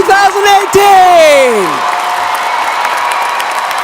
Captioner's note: applause